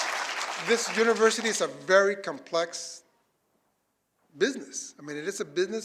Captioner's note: applause